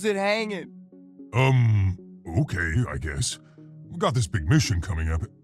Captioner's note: voiceover